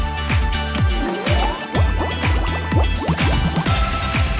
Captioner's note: bubbles